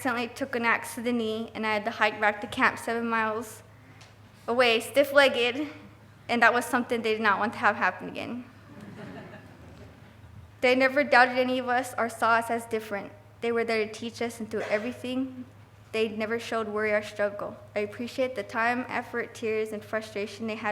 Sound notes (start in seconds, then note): 8.7 laughing